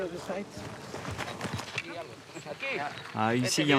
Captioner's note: Spanish language